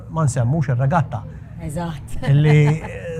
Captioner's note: laughes